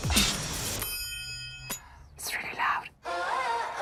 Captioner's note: bell dings